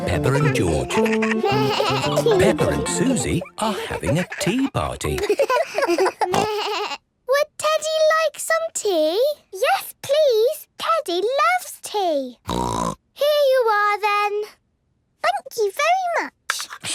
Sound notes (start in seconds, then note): 5.3 giggles, snorts; 12.4 snort